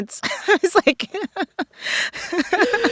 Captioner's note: laughter